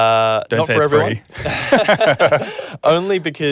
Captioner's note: both laughing